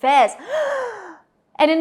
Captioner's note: deep breath